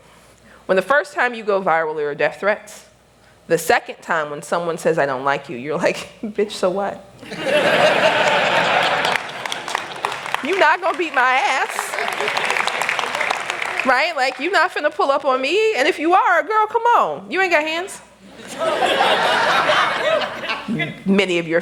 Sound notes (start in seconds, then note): 7.2 laughter; 11.6 applause